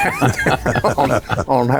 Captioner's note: panelists laughing